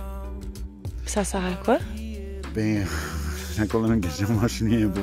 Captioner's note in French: rire